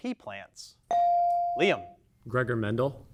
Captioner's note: bell dings